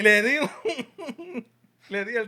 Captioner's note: non-english Speech